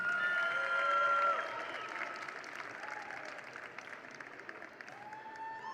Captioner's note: attendees cheer; attendees applaud